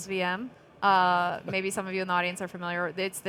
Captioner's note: chuckling